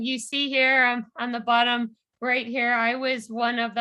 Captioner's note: none